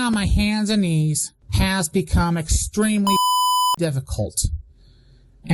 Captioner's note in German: Piep